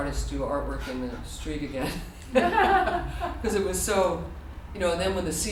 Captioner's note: laughter